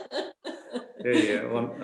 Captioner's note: laughter